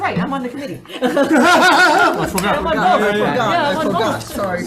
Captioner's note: all laughing